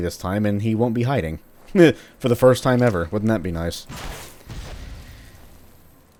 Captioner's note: fwoosh